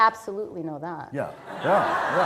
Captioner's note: laughter